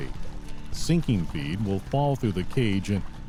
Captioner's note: background water sounds, music